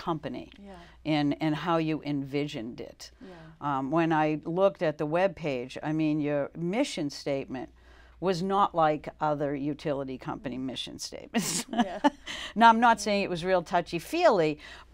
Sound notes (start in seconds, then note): 11.5 laughs